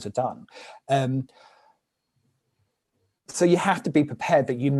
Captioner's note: silence